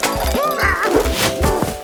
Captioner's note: Big Lizard yelps